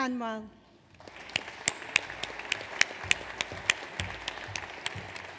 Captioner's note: audience applauds